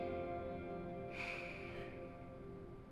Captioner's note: sigh